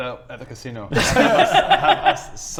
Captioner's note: unconvinced giggles